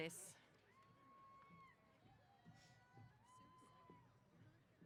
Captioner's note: cheers